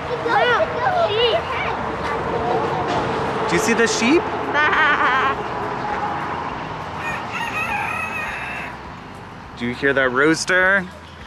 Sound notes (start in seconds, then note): 4.5 imitating sheep call; 6.9 rooster crowing